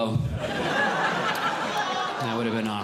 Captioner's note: audience Laughing